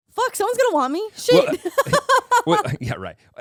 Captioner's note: laughing